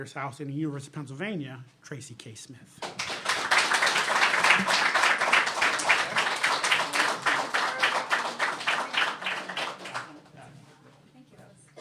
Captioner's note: applause